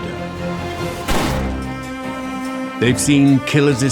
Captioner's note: gun bangs